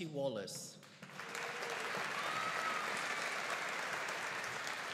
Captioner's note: audience applauding